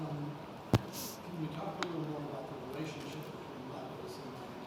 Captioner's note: faintly speaking